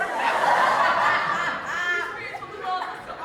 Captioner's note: audience laughs